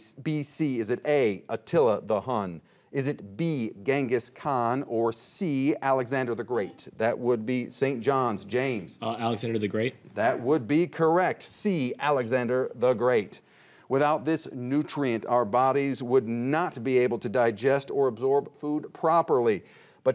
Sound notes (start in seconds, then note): none